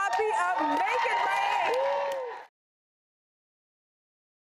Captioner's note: cheering